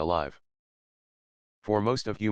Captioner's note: pause